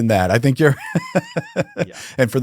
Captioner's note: laughing